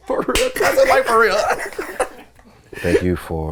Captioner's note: chuckles; hand claps